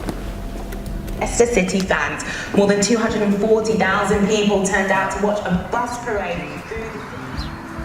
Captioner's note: TV on